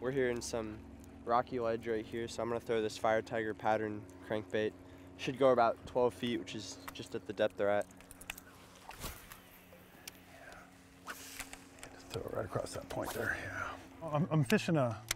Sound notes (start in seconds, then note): 10.0 reel spinning